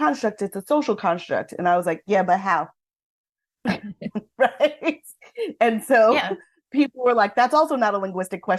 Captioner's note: laughs